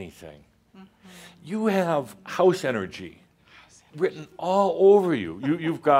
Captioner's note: she chuckles